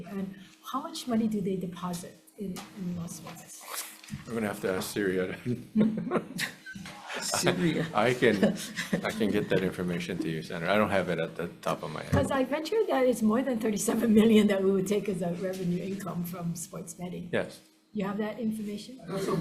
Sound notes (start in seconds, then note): 5.2 chuckles